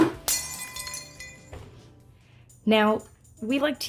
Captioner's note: smashing noise